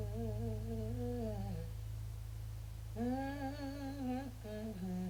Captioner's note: woman hums